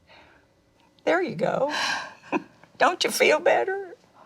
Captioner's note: chuckles